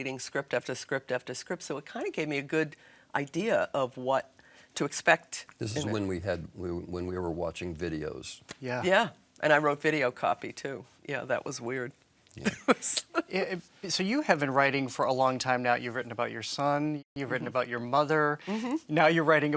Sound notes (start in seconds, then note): 12.5 laughing